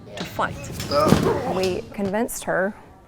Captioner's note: teacher grunts